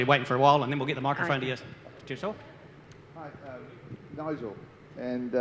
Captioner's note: mutters